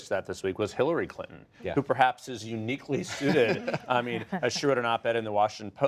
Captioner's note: laughter